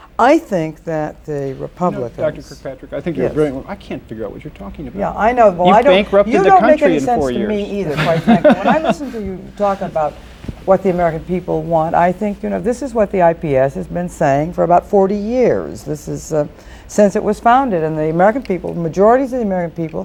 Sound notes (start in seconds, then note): 10.0 laughter